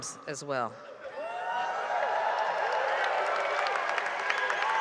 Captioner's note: cheers and applause